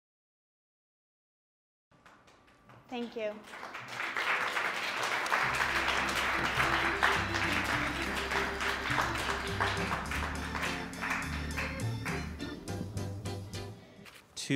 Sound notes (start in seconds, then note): 4.0 audience applauding; 7.5 upbeat music